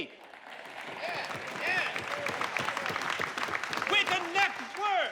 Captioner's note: people clapping